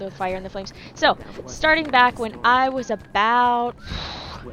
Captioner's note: regular accent